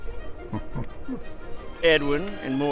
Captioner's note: chuckling